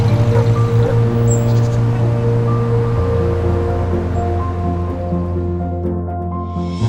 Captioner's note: truck passing, dog barking; bird chirping, street noise